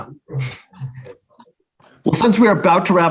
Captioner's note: laughs; people chattering indistinct